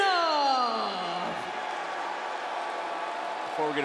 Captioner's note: crowd cheers and boos